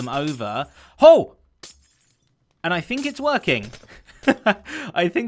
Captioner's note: chuckles